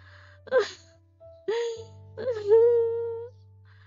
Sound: fake crying

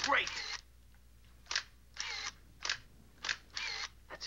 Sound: camera shutter clicking

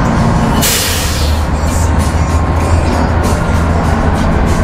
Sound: machinery sputters

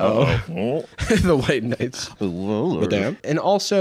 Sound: laughs

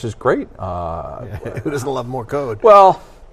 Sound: laughs

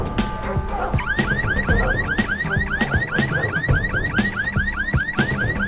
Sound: car alarm beeps

